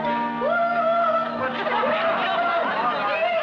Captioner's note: chanting